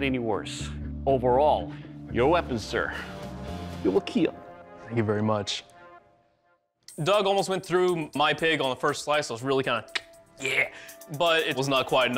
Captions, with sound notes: Overall, your weapon, sir, it will KEAL. Thank you very much. Doug almost went through my pig on the first slice. I was really kind of [clicks tongue] yeah. But it was not quite enough to distract him